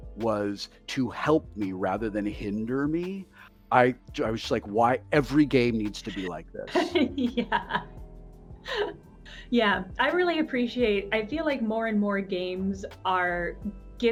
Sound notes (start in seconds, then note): 5.6 chuckles